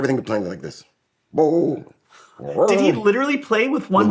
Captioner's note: imitates growling bass